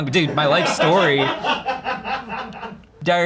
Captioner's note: crew laughs